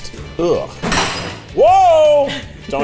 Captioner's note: equipment clattering